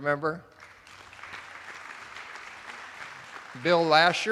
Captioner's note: attendees applauding